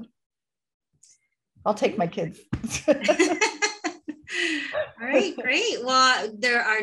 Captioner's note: laughter